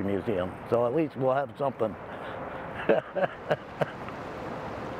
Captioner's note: laughs